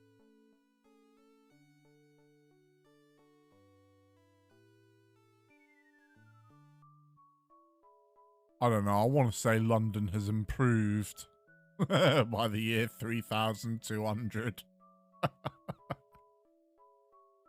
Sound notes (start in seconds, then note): 11.7 cheeky laugh; 15.2 cheeky chuckling